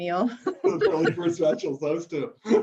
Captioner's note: laughs